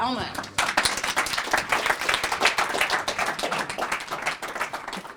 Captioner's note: applause